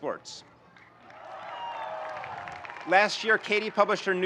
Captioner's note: audience cheering and applauding